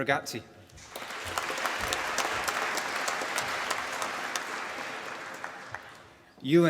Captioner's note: applause